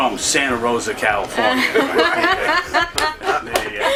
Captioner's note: laughter